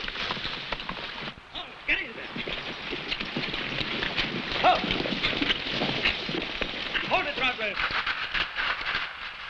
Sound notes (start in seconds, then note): 0.3 horse hooves pattering; 4.6 man shouts